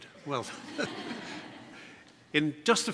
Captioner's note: laughter